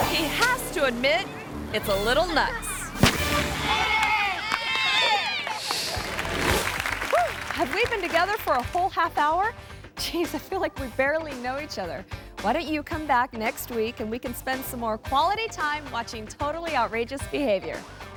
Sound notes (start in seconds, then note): 3.0 explosion bangs; 3.4 people cheering; 6.2 audience claps and cheers